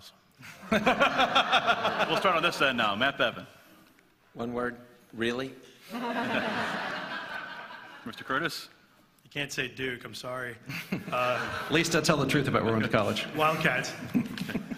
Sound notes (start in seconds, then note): 5.8 laughter; 10.6 laughter